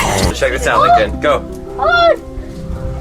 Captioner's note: screams